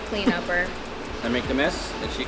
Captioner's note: laughs